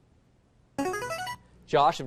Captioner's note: buzzer